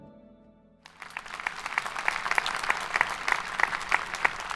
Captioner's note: audience applauding